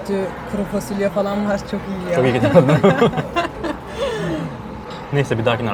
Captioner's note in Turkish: kahkaha